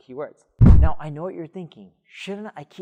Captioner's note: air whooshing